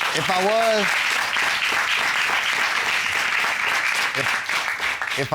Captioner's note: applause